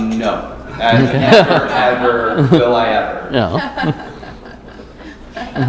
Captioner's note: laughter; laughter